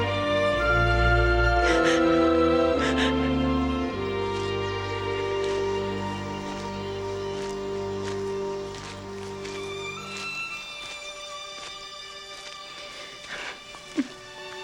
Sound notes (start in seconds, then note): 6.0 insects chittering; 7.4 birds chirping; 9.6 somber music